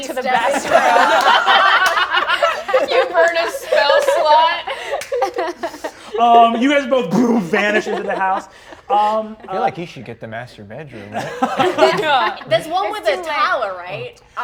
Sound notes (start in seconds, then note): 1.9 all laughing; 7.4 poofs